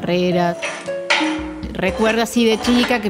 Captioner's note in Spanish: golpe de metal sobre metal